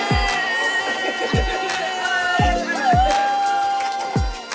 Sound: person cheering

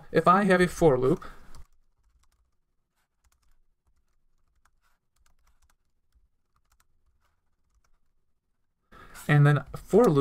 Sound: typing

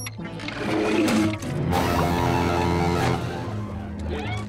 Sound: honking

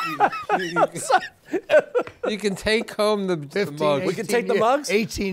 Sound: laughter

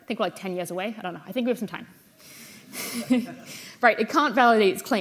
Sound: chuckles

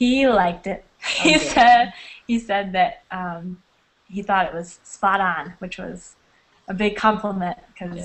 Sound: chuckling

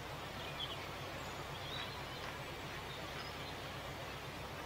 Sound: background Noise - Boat's diesel engine and birds tweeting or chirping

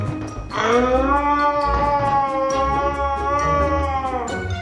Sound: screaming

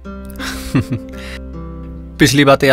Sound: chuckles

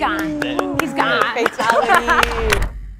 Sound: everyone clapping

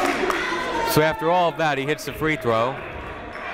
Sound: shouting

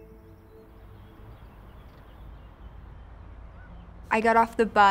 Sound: birds chirping

